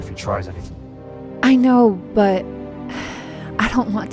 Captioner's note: sighs